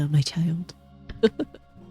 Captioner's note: laughs